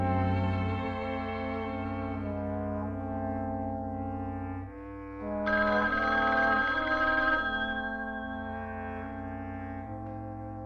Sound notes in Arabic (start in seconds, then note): 0.1 موسيقى درامية; 5.5 رنين الهاتف